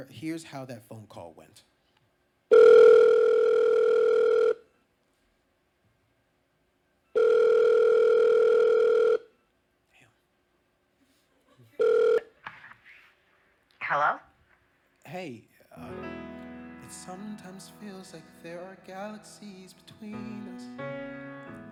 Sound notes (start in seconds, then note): 2.5 phone ringing; 12.5 click